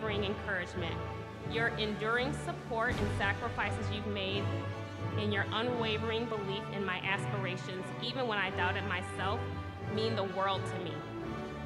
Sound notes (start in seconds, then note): none